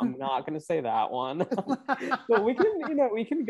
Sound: both laugh

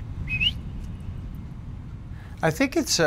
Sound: whistling

